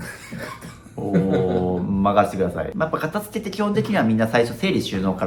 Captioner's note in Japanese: 笑い